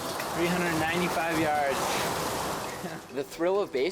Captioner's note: chuckles